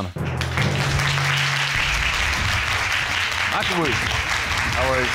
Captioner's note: applause